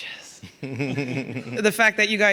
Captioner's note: laughing